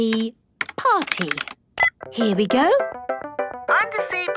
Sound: beep

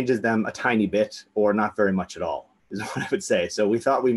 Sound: laughs

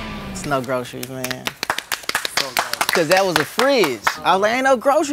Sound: applause

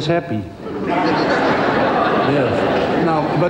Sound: crowd laughs

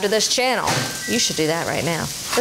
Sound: bell dinging

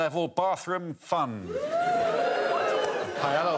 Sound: audience cheers

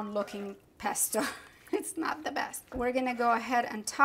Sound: laughs

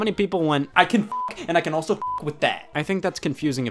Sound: beep

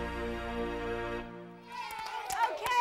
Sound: clapping and cheering

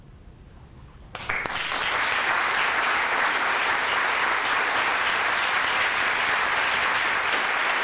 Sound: applause

